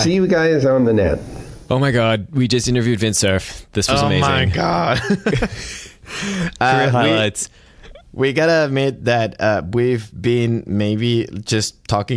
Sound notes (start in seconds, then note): 4.7 laughter